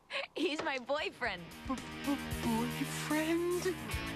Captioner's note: laughs